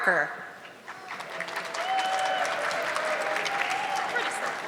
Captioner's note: audience clapping